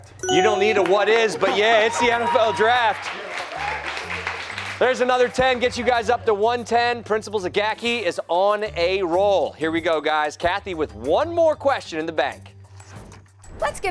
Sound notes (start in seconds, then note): 3.2 cheers and applause